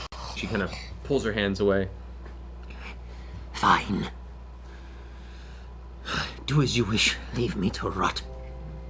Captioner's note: huff